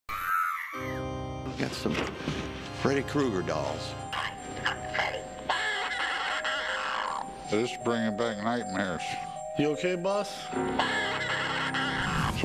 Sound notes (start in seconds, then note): 0.1 scream sound; 0.4 organ music playing; 5.7 laughter